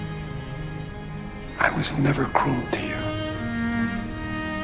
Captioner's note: voiceover